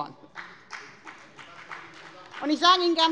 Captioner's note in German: Beifall bei der FDP